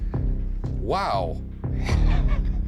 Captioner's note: chuckles